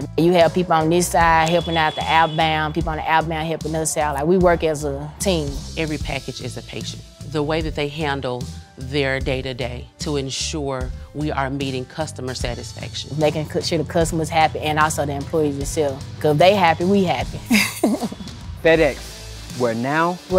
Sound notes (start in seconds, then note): 17.4 chuckles